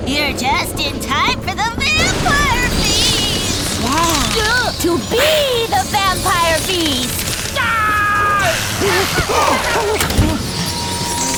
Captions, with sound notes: You're just in time for the vampire feast! -[bats squeaking, flapping] -To be the vampire feast! [screams]